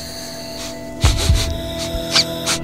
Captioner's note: sniffing